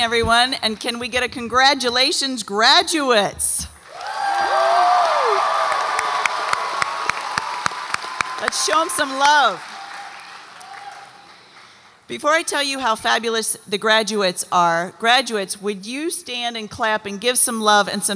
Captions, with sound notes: - Good evening everyone and can we get a congratulations graduates? (audience applauds and cheers) Let's show 'em some love. Before I tell you how fabulous the graduates are, graduates, would you stand and clap and give some love